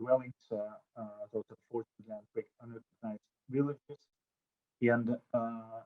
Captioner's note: audio drop